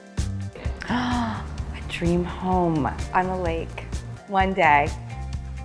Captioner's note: gasps